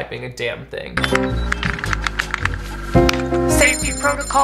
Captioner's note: keyboard clacking